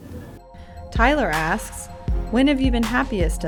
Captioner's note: voiceover